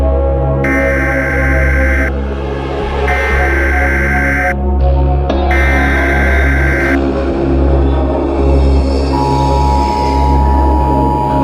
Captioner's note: emergency Alert System Sound